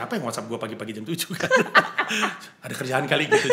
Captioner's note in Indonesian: ketawa